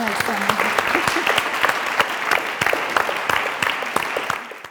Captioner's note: audience applauds